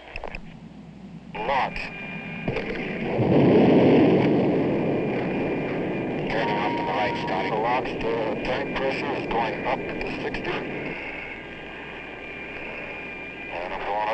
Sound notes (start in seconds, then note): 3.4 jet engine firing